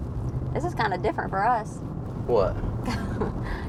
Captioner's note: laughs